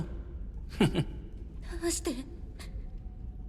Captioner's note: chuckles